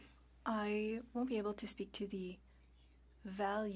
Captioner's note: speaking French